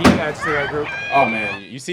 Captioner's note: bang